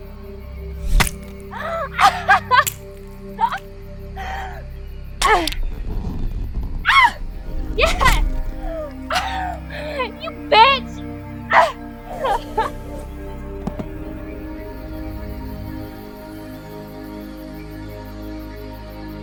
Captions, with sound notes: (ax chops) (blood splatters) (Donna laughing) Yes! You bitch! (rope whizzing) (dramatic orchestral music)